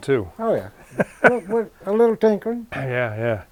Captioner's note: camera guy laughing